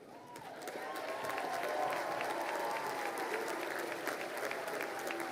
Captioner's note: crowd cheering and applauding